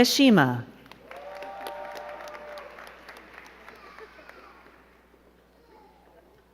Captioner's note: crowd cheering and clapping